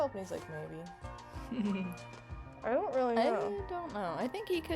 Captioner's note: laughs